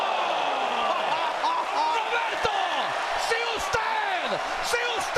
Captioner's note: laugh